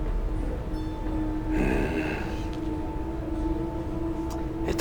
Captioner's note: grunts